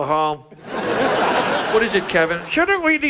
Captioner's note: audience laughs